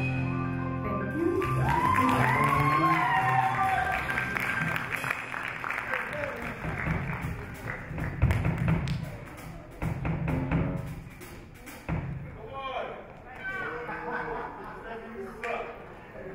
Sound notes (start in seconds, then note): 1.1 audience cheer; 4.8 audience applaud; 12.6 audience chatter